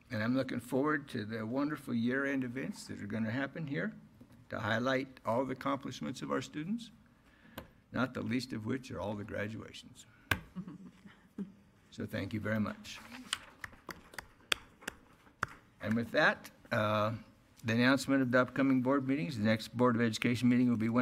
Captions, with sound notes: And I'm looking forward to the wonderful year end events that are gonna happen here to highlight all the accomplishments of our students, not the least of which are all the graduations. So thank you very much. (applause) And with that, the announcement of the upcoming board meeting. The next Board of Education meeting will be